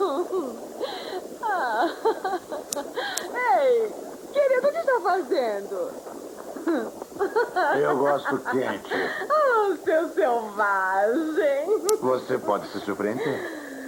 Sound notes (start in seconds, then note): 2.6 electrical sparks